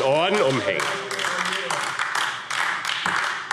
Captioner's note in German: Beifall AfD